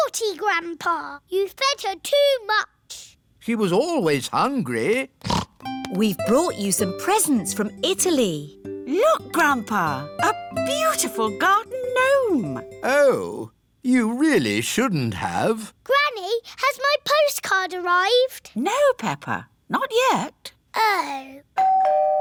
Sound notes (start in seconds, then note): 5.2 snorts; 21.6 doorbell rings